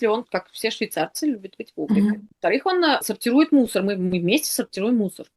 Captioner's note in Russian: откашливается